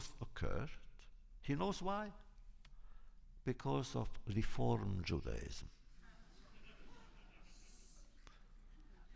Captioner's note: laughter